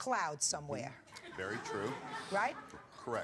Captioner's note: audience laughs